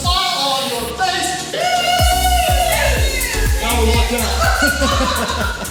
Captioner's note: audience cheering